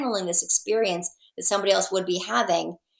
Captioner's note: none